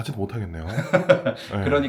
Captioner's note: laughs